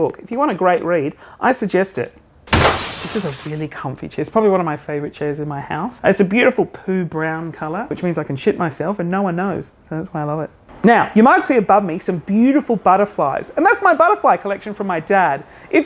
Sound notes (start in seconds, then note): 2.5 crashing